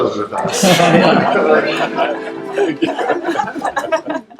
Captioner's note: participants laughing